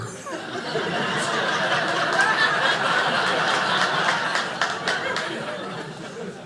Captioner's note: audience laughing